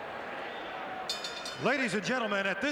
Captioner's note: bell rings